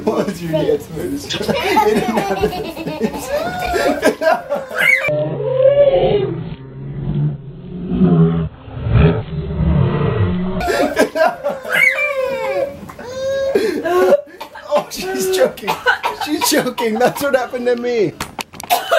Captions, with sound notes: Or I'll do dance moves. (coughing) - Oh, she's choking! She's choking! That's what happened to me!